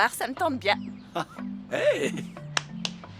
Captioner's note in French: rires